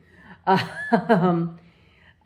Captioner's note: laugh